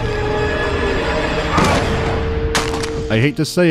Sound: thump; clank

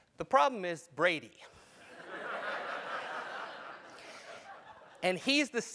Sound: laugh

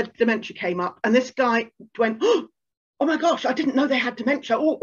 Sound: gasp

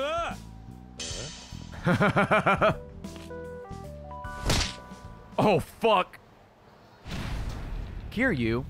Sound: laughs

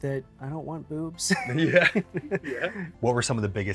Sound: laughs

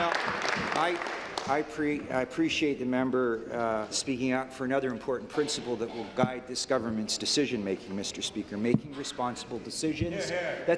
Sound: applause

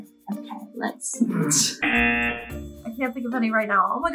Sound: buzzer rings

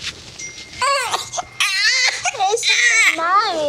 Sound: crying

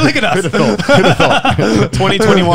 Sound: all laughing

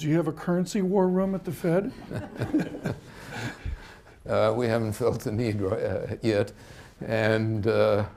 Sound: laughter

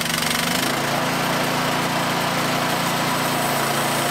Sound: motor Reves Up to Speed

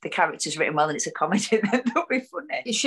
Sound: laughs

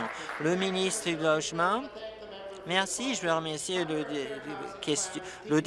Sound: applause

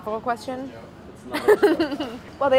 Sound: laughs

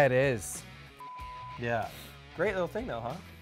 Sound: beep

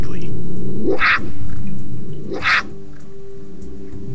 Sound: cubs growling

